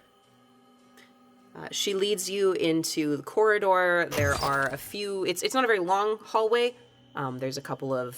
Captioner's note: door slides open